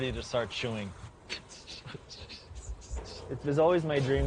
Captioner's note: chuckles